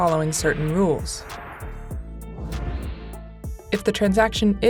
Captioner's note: suspenseful music continues; transition whooshes